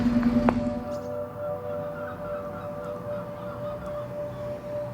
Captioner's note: birds squawking